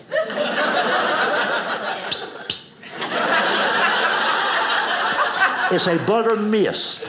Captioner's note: audience laughing